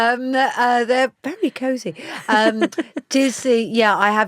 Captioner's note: laughs